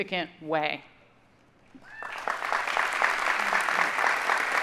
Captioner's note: audience applauding